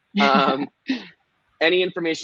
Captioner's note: laughing